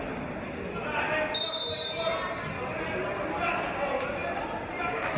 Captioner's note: referee's whistle